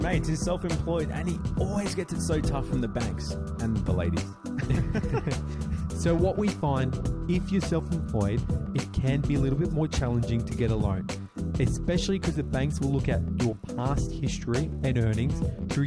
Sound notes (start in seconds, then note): 4.6 laughs